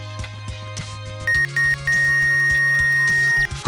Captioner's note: X-ray beeping again